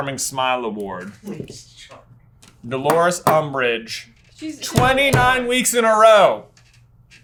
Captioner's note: laughing